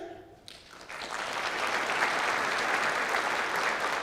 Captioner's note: clapping